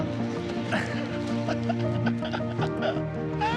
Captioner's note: laughing